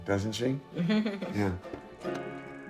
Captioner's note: laughs